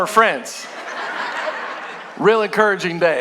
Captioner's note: congregation laughing